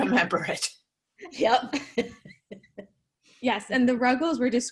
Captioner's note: both laughing